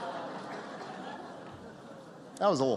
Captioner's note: laughter